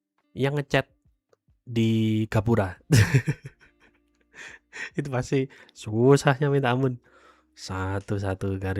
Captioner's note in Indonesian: tertawa